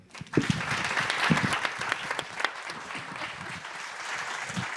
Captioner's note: audience applauding